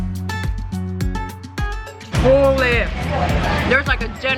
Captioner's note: laughs